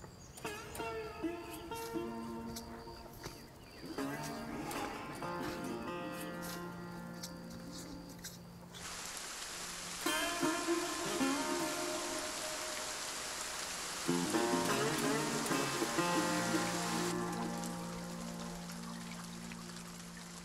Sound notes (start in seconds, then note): 0.5 somber Western music; 9.0 rain pouring; 17.6 water dripping